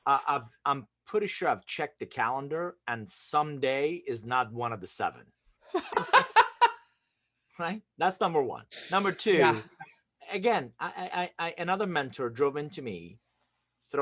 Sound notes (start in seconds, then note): 5.7 laughs